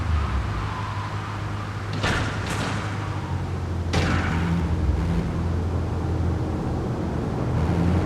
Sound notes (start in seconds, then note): 1.9 gun firing